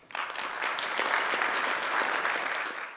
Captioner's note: applause